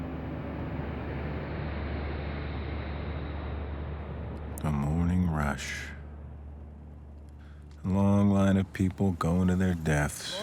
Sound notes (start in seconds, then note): 0.9 traffic humming